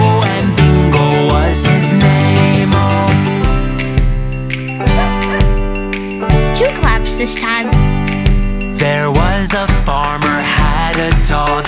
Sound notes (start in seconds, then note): 4.9 Bingo barks